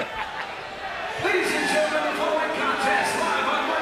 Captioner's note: crowd chatter